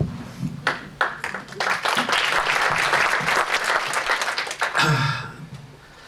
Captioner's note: applause